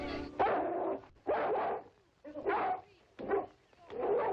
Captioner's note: dog barking